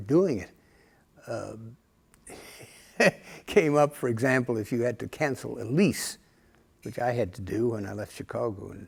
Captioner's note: laughter